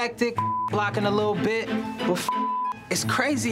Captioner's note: beep